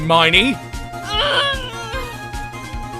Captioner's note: groan